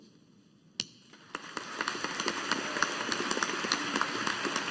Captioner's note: audience applauding